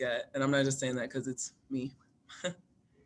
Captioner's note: laughs